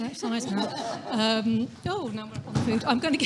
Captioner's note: audience laughing